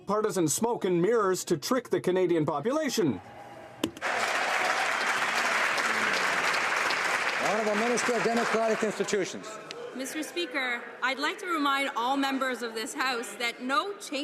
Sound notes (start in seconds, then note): 7.7 some Applause